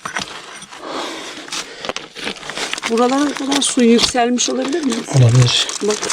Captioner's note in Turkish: homurdanır